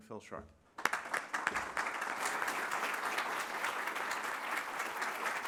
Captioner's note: applause